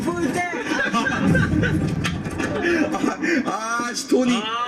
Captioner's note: cracking up